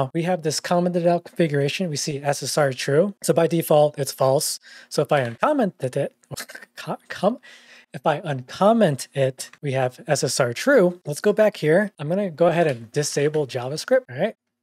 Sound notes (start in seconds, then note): 6.1 over-expressing stutters